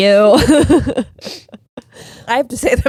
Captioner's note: laughing